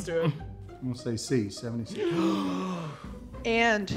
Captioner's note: gasping